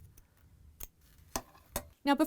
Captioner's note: scissor Sounds